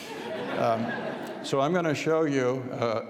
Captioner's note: audience laughs